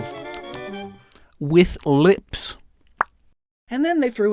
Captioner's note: smacks lips